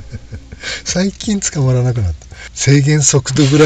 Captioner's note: laughs